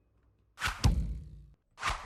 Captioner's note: slap